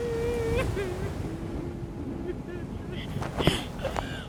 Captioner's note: weeping